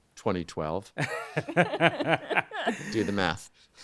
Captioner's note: all laughing